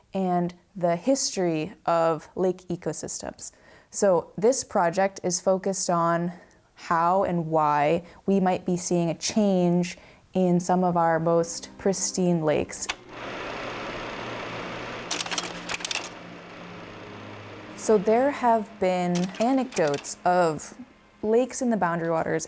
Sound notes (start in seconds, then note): 13.0 slide projector whirring; 15.0 slide changer clicking